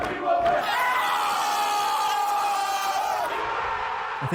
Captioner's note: screams; crowd cheers